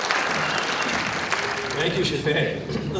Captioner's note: applause